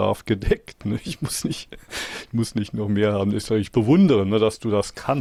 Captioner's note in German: gelächter